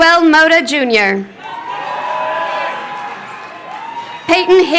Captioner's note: crowd cheering